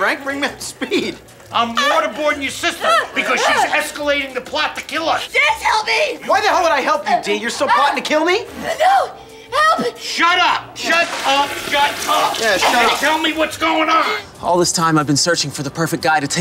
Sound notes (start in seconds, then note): 8.5 gagging; 10.7 water rushing